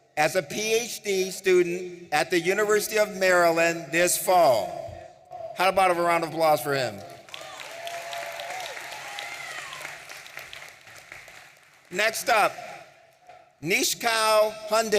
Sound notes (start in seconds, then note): 7.2 audience applauding and cheering